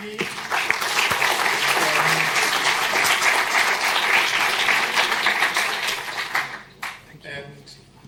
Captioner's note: applause